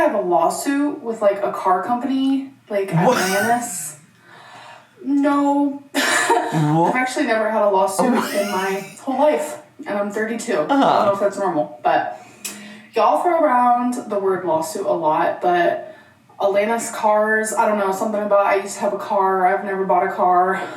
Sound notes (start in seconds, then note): 2.9 chortles